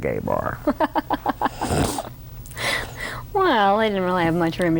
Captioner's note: laughter